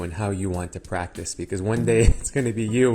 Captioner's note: veteran doctor laughs